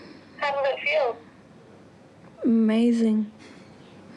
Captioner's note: chuckles